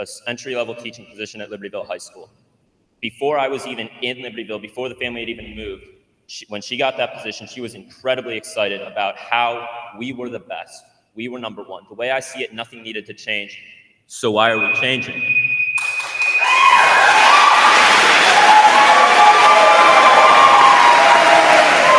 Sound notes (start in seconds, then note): 14.4 timer beeping; 15.8 attendees applauding; 15.8 attendees cheering